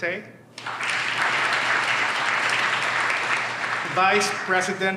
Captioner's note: audience applauds